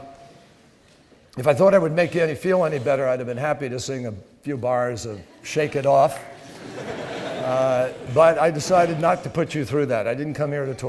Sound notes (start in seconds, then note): 3.7 laughter